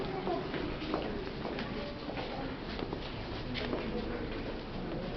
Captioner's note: footsteps echoing